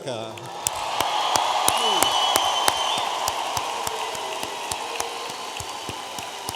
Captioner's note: audience applauding and cheering